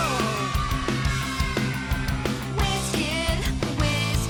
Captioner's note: kids cheering